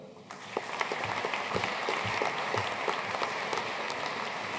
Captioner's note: audience applauding